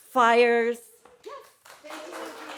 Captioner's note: audience cheering